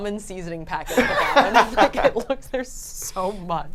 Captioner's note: group laughs